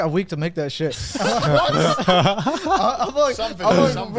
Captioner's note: all laughing